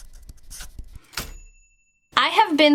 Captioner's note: dinging